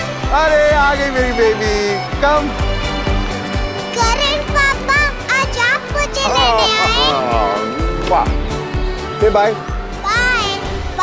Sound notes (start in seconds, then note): 7.8 Kisses